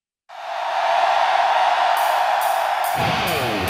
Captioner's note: crowd noise